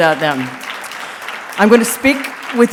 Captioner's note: audience applauding